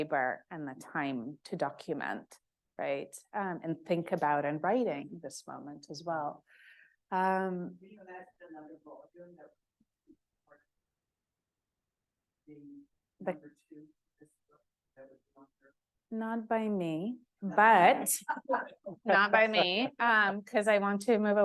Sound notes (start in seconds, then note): 9.7 audio cuts; 17.6 laugh